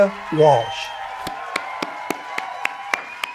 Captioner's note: cheering